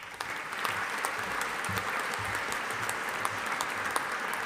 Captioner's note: audience applauding